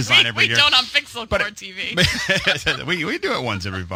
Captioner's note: laughs